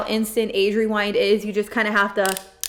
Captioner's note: click, click, click